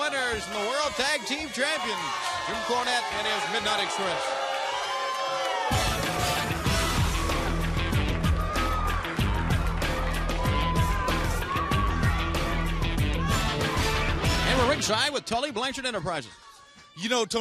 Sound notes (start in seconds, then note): 0.0 crowd chatter; 4.8 crowd cheering